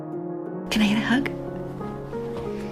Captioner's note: voiceover